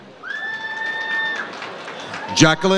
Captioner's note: audience cheers